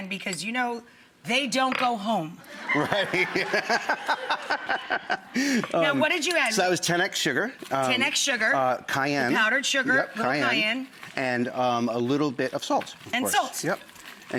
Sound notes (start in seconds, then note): 2.5 audience laughing; 2.5 laughs